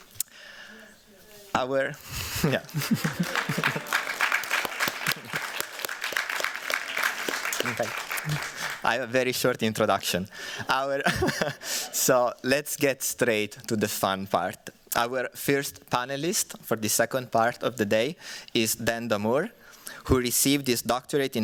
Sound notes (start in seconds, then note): 2.4 applause; 2.8 chuckles